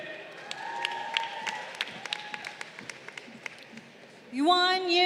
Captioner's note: crowd applauding